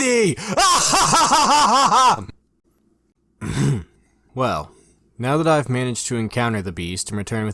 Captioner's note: ahem